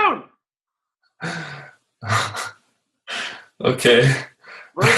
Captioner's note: laughing